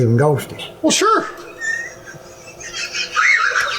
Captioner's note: laughing